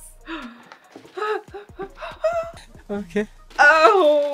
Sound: gasps

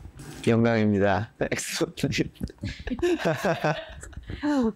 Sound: laughs

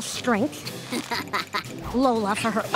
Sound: chuckles

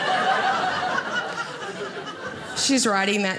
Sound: audience laughing

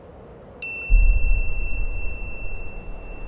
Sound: beep; wind blowing

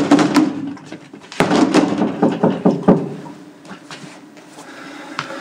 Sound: knock on door

